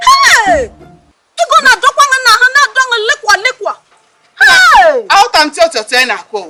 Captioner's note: exclamating